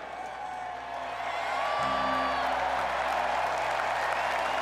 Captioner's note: crowd cheers